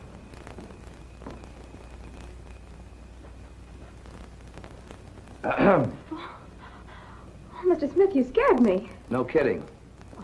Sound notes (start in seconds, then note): 5.5 ahem